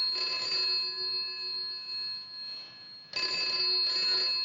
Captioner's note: ringing Continues